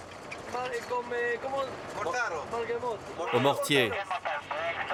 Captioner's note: Hebrew spoken audio